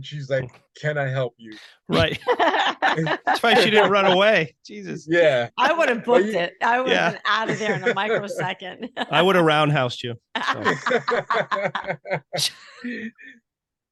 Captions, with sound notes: she's like, "Can I help you?" (all laughing) - So she didn't run away, Jesus. - I would've booked it, I would've been outta there in a microsecond. - I would've roundhoused you. (laughing loudly)